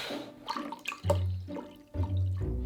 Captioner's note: liquid pouring